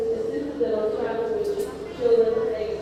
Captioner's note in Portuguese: informações em hindi